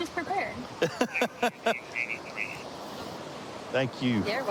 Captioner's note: laughing